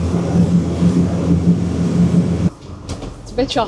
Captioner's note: engine revving